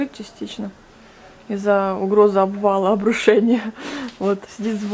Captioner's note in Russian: смеётся